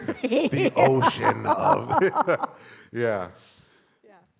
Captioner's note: both laughing